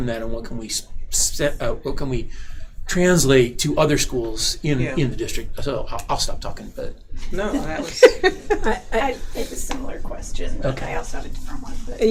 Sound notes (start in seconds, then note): 7.4 laughing